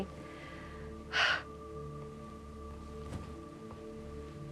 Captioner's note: exhales deeply